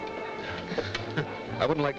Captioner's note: Joe laughs